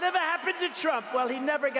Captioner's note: cheers